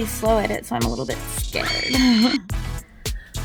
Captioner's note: giggles